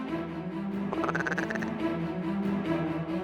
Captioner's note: duck calls